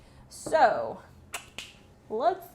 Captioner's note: clicks through teeth; snaps fingers